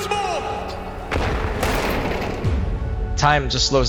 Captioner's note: explosion booming